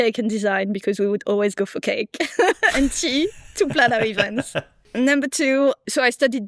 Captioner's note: laughs